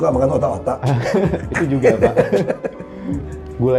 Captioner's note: laughing